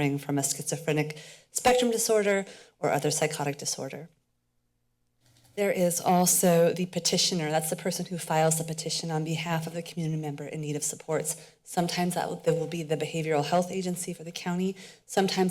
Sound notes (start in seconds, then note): 4.1 pause